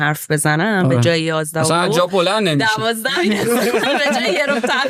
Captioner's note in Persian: خنده